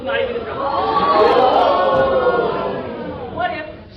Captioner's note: gasps and "ohhhh"s